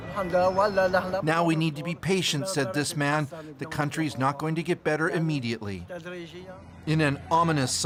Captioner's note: speaking alternate language